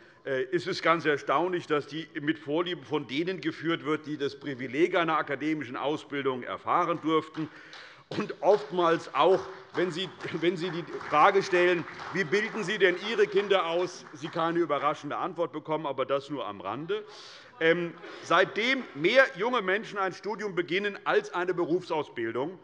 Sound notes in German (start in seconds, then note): 7.4 Beifall bei Abgeordneten der CDU